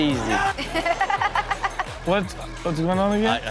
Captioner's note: Chanel and audience laugh